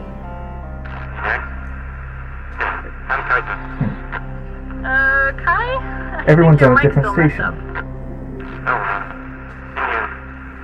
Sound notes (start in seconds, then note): 1.5 through heavy static; 9.4 static